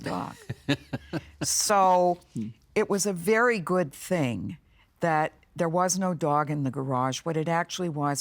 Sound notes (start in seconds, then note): 0.0 laughing